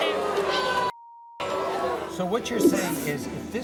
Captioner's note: crowd boos